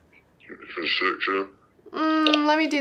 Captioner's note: altered male voice